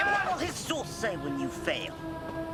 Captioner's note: yelling